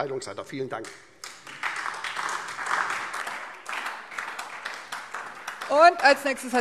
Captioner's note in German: Beifall SPD, Freie Demokraten und DIE LINKE